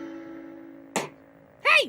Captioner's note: slap